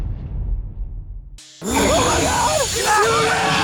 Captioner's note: growls